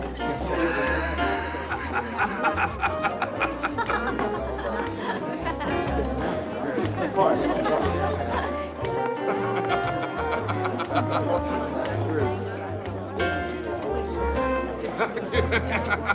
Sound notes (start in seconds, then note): 0.1 party goers laughing; 0.1 soft piano music; 5.9 Bill laughing; 5.9 soft piano music